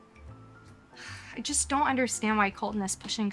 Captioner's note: sighs